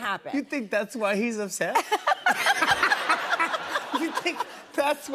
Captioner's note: laughter